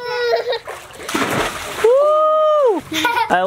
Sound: water splashing

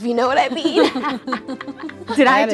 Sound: laughs

